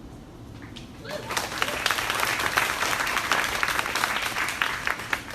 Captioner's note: crowd applaunding